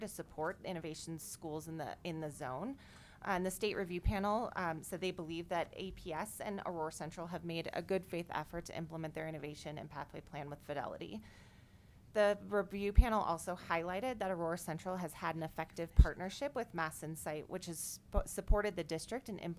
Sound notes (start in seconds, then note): none